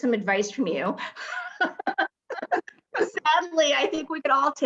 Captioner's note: laughing